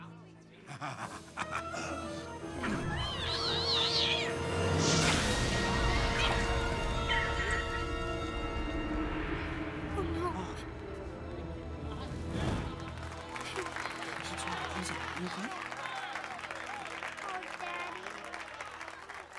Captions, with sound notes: [laughs] [squeaking] Oh, no. - [applause] - Pip. What's wrong? Are you OK? Oh, Daddy.